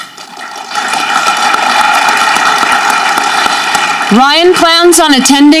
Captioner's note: audience clapping